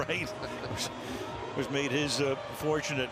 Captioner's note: laughter